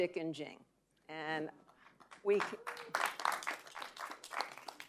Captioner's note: audience applauding